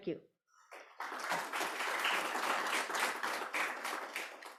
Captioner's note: applause